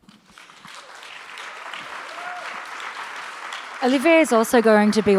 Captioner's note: audience applauds